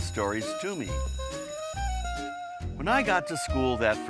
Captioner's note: school bell ringing